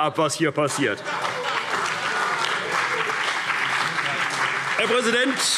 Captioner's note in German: Heiterkeit und Beifall CDU und BÜNDNIS 90/DIE GRÜNEN